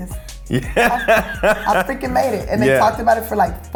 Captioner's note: laughs